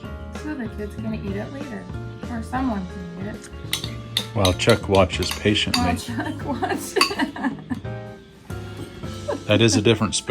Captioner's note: laughter